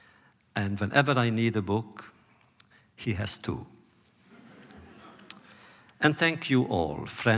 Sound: laughter

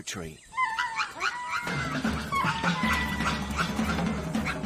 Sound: lemurs chattering

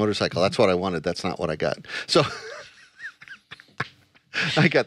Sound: laughs

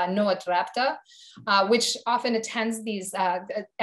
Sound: speaking foreign language

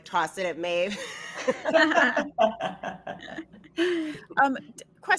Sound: all laughing

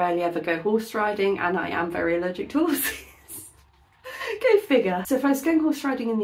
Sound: laughing

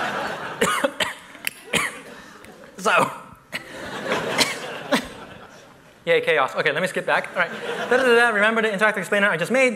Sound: laughter

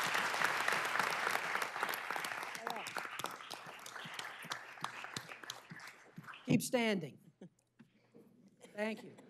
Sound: applause

